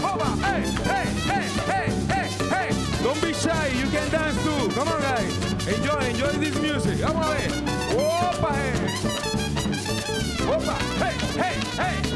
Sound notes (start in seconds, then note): 7.9 speaks in Spanish